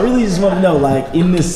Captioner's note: laughter